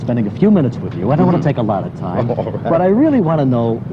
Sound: laughing

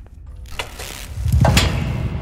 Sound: buzz of flickering lights

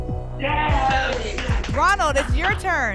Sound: applause and cheering

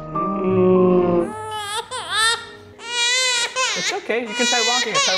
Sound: slow-motion crying; baby crying

